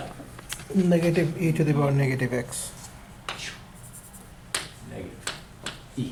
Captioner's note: voiceover